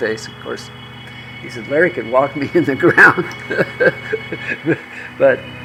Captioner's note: laughs